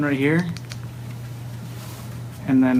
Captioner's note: button Clicking